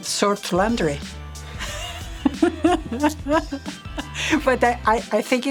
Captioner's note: laughter